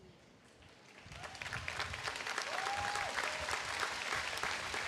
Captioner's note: audience applauding